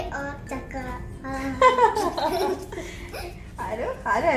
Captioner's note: laughing